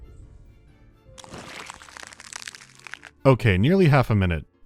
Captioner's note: shlur-rp